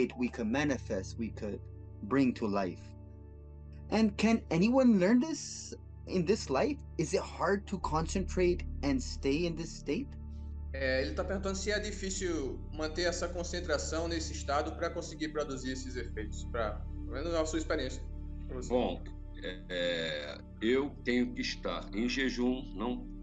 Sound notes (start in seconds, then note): 12.0 translating in Portuguese